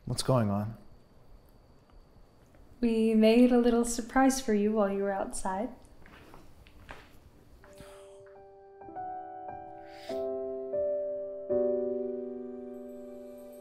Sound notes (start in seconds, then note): none